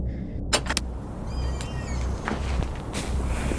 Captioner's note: door creaking